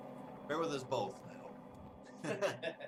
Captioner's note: laughs